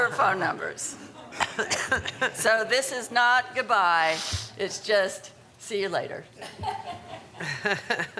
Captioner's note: laughter